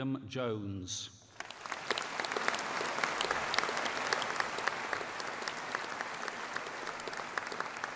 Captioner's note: applause